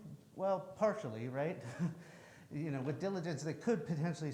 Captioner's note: chuckles